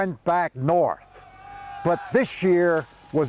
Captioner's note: soldiers shouting